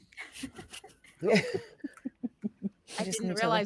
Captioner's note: all chuckling